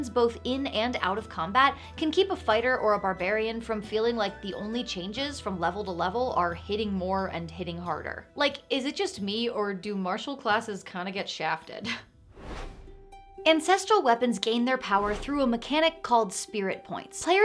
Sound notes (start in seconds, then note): 12.2 air whooshes; 12.5 gentle music